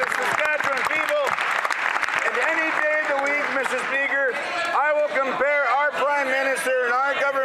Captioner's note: some Applause